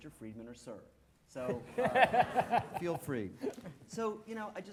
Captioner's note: laughing